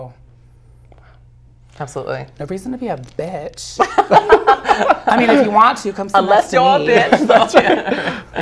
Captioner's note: laughs